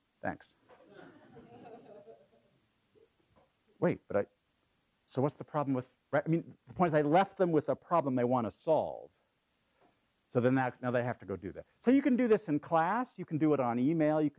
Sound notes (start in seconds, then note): 0.7 laugh